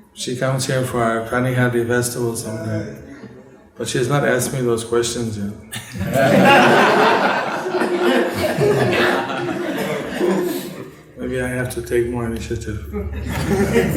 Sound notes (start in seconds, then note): 9.4 laughter